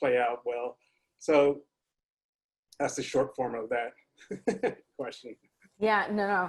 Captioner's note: laughs